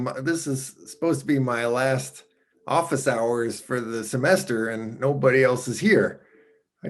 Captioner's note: none